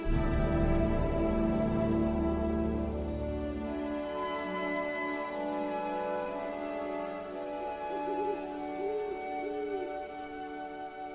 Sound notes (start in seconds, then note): 7.8 owl hooting